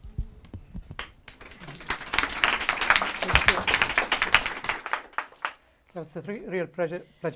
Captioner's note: applause